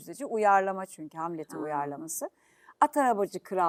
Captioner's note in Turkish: boğazını temizler